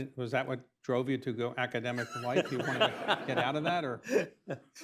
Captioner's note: laughter